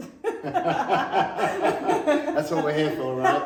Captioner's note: laughter